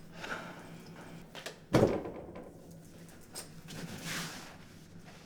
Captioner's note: hands bang